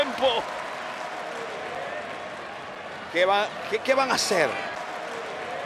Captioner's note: applause